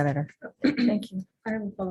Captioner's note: woman clearing throat